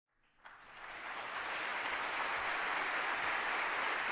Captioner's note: applause